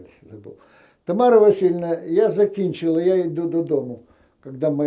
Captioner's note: ukrainian